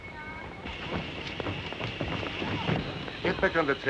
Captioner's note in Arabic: هسهسة البخار